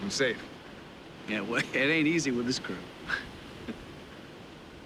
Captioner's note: chuckles